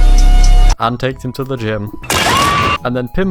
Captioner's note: shrimp screams